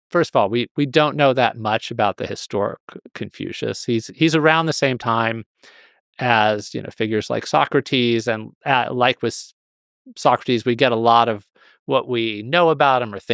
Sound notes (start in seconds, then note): none